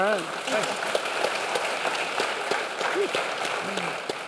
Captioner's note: audience applause